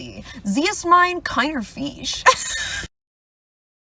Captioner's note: laughs